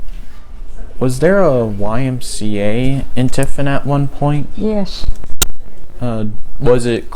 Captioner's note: microphone glitching